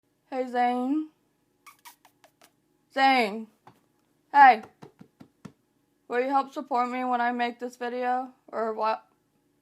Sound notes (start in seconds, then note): 1.6 kissing noises